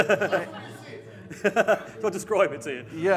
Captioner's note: audience members murmuring